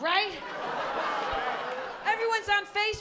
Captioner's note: laughter